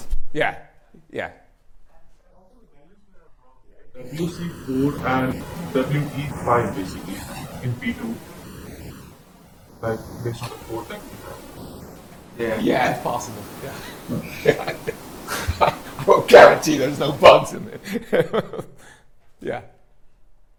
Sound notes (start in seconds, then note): 13.6 laughs